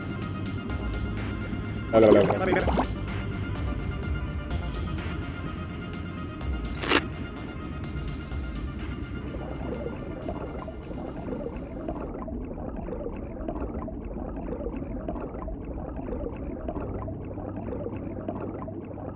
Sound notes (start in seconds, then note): 1.9 gurgling; 9.7 underwater swimming sounds